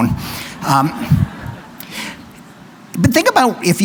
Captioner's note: laughter